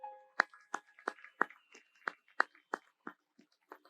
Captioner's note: audience applauds